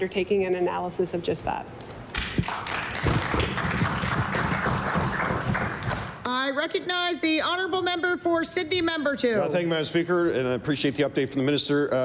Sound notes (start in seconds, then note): 4.9 applause